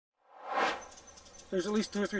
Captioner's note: air swooshes